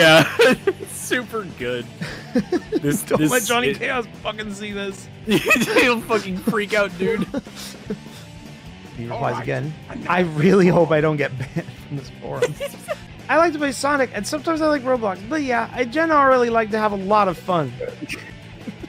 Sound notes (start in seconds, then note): 5.2 laughs